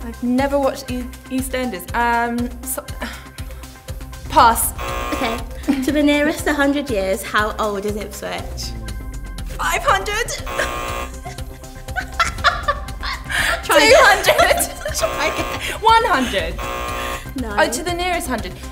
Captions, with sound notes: I've never watched Eastenders. Ah , pass. (buzz) To the nearest 100 years. How old is Ipswich? 500. (buzz) (laughter) 300 (buzz) Try again. 100. To the nearest hundred,